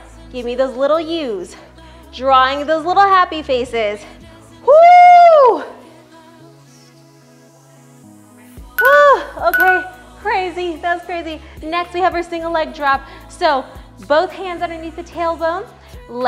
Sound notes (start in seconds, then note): 5.1 whooping; 8.8 time beeps